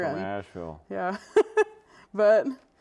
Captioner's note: laughs